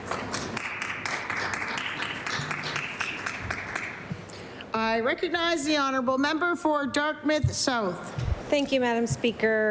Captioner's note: applause